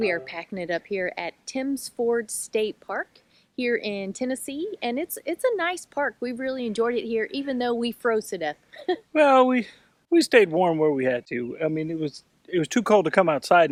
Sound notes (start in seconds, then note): 9.1 laughs